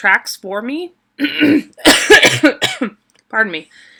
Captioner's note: coughing